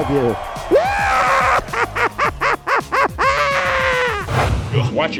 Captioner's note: Joker laugh